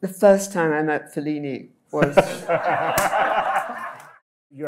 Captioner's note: laughs